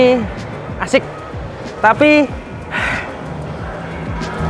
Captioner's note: sigh